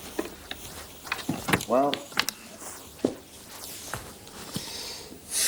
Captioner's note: sighs